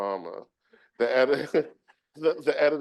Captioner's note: chuckles